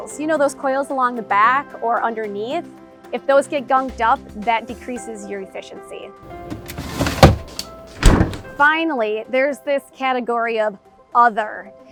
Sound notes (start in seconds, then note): 6.2 gentle music; 6.3 banging loudly